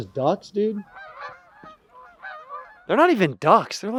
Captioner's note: more Geese sounds